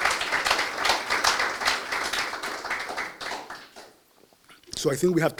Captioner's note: applause